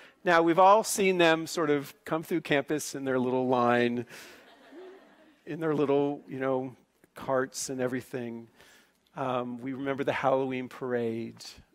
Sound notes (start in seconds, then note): 4.2 laughing